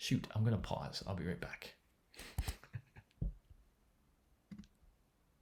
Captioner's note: chuckling